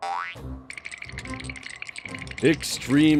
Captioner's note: both shivering